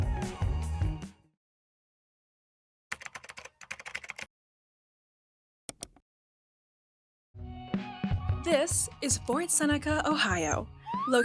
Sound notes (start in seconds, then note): 2.9 keyboard taps; 5.7 mouse clicks; 7.4 laid-back music